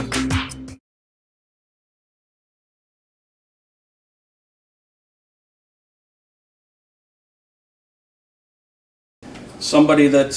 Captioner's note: silence